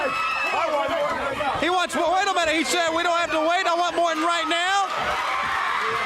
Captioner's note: crowd chatter